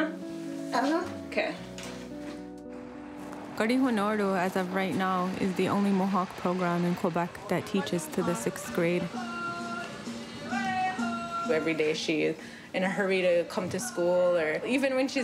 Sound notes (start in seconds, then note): 1.8 speaking native language